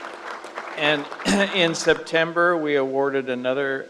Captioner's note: crowd applauds